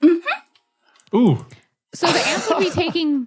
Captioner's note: laughs bewilderedly